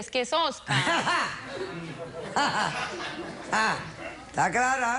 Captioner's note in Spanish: risas